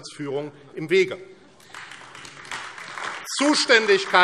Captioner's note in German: Beifall AfD